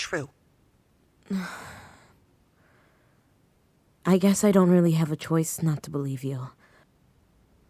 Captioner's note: sighing